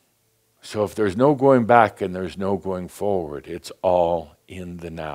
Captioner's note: none